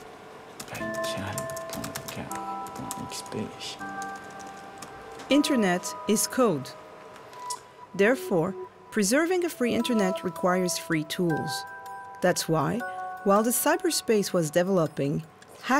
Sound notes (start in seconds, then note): 0.8 speaking in a foreign language